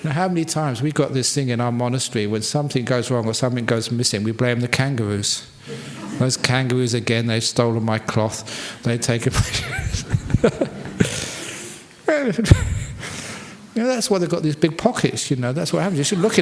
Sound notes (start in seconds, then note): 9.4 laughs